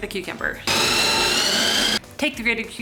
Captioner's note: food processor whirling